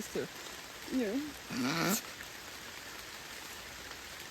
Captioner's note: laughs